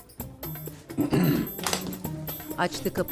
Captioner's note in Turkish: Boğaz temizleme sesi